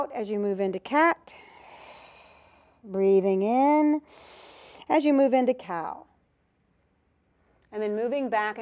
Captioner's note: breath sound